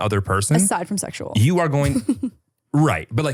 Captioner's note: laughs